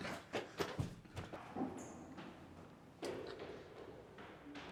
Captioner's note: footsteps running down stairs